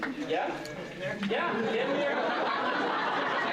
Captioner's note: laughter